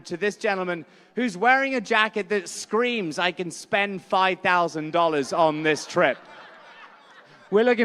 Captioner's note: laughter